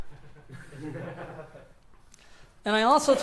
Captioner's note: laughs